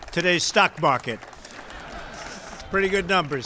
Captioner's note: laughter